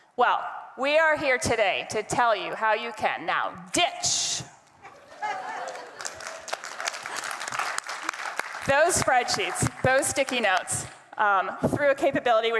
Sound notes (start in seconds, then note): 4.8 attendee laughing; 5.1 attendees clapping